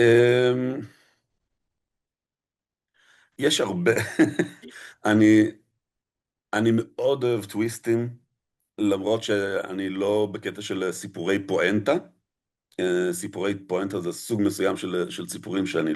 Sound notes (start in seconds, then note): 3.8 laughter